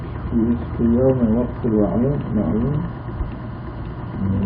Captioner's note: reciting in Arabic